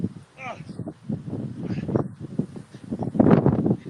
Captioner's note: wind blowing